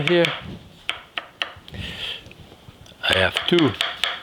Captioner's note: knife chopping